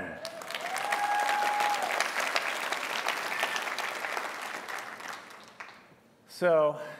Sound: applause

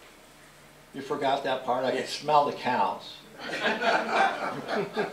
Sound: laughter

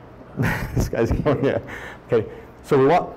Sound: laughs

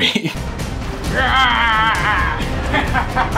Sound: A very un-intimidating scream; maniacal laughter

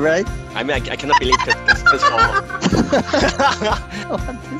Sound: more group laughter

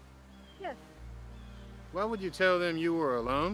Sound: birds chirping

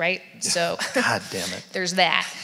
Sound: laughs

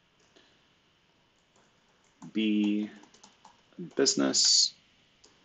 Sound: computer keyboard clicking

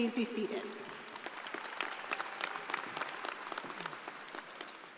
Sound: audience applauding

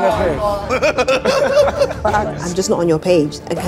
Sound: KSI laughing

